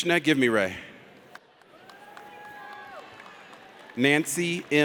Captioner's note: audience cheers